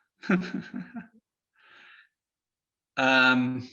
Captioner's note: laughs